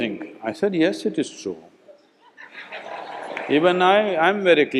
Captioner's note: laughter